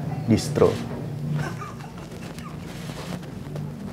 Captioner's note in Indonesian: awkward laugh